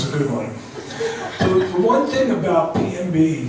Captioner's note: laughs